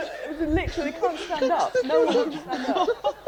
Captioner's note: background talking